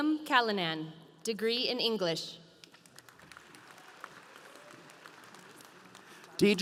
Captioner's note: audience applauding